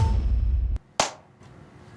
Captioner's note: clap